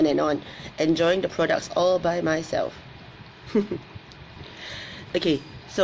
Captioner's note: laughs